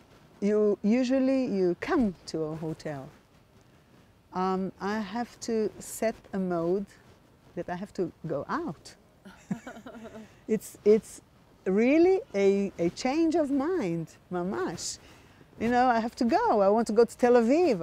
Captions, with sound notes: usually you come to a hotel. I have to set a mode that I have to go out. [LAUGHING] It's really a change of mind. [HEBREW] You know, I have to go. I want to go to Tel Aviv.